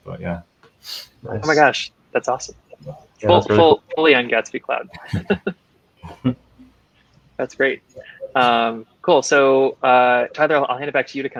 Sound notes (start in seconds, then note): 4.8 laughing